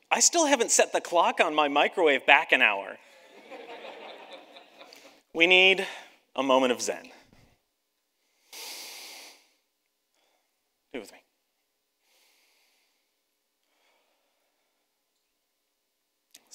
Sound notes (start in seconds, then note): 3.1 audience laughs; 8.2 breathes deeply; 12.0 breathes deeply